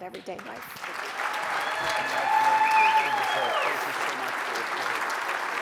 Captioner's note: audience applauds